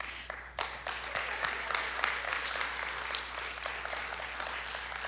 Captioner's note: audience applauding